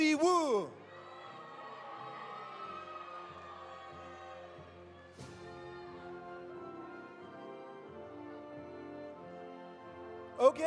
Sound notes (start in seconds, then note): 0.3 audience cheering; 1.4 audience applauding